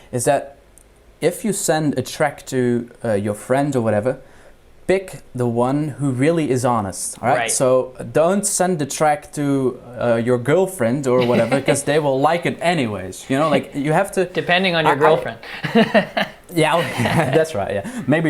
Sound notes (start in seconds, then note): 11.2 dramatic laughs; 15.8 dramatic laughs